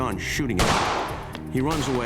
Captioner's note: gun shot